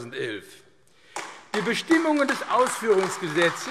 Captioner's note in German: Beifall AfD